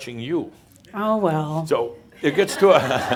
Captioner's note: laughter